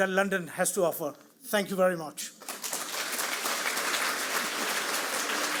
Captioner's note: audience applauds